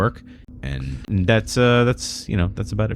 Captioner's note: uh